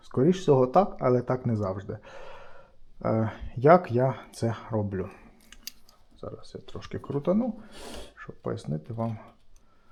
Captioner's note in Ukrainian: сопіння